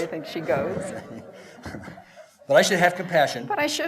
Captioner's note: laughter